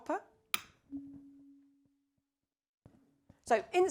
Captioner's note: tuning fork vibrates